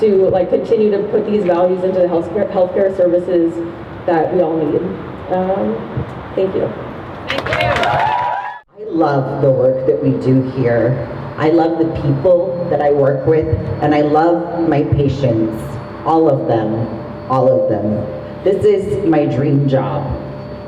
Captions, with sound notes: to continue to put these values into the healthcare services that we all need. Thank you. [crowd cheers] -I love the work that we do here. I love the people that I work with, and I love my patients. All of them. All of them. This is my dream job.